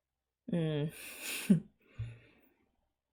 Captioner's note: laughs